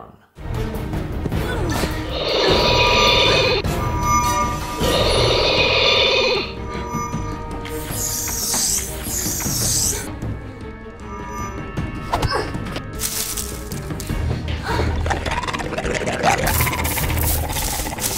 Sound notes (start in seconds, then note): 2.0 roar; 2.1 grunt; 3.5 magic sword sound; 4.5 roar; 7.7 spiders spraying webs sounds; 11.7 smack; 12.4 grunt; 15.4 roar